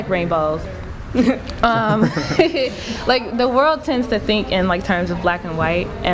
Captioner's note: laughter